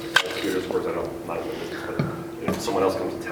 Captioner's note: murmurs